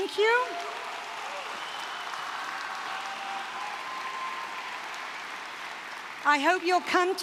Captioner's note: applause